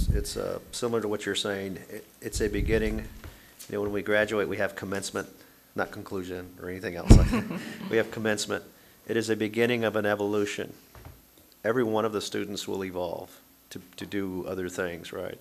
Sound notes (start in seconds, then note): 7.2 audience laughing